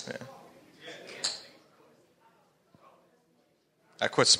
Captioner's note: audience members chattering all at once